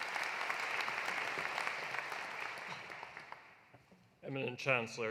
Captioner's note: applause continues